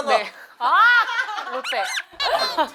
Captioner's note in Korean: 행복 비명